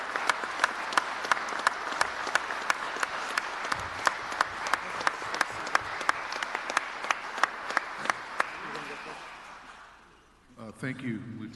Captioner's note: applause